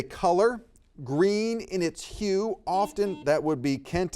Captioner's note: buzzer beeps